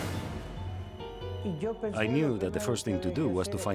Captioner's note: speaking in foreign language